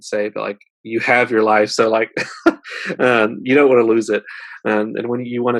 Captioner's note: laughs